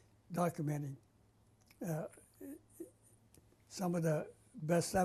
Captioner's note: pauses for 3 seconds